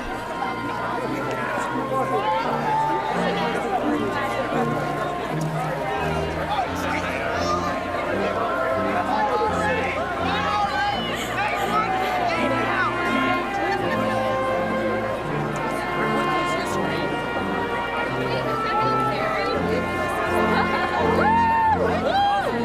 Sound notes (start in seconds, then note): 0.1 gentle elegant music; 9.1 shouting; 19.9 whooping